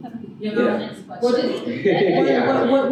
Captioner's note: laughter